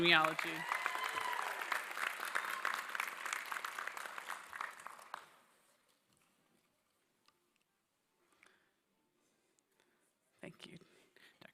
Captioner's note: applause